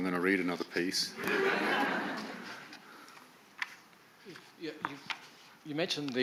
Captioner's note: audience laugh